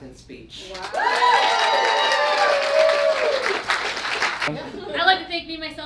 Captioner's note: audience cheers